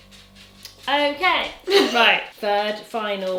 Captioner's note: chuckles